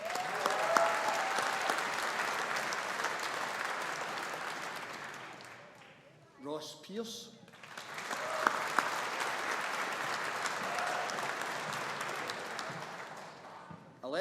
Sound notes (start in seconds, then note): 0.0 audience applauding; 7.5 audience applauding